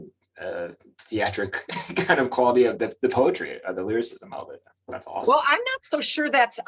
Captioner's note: chuckles